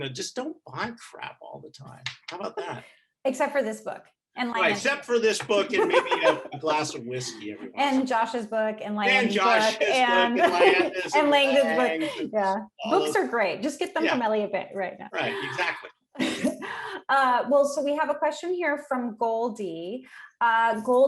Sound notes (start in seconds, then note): 5.6 laughing; 9.2 chuckling; 15.1 chuckling